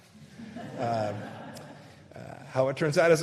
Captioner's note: laughter